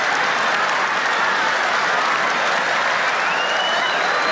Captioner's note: audience applauds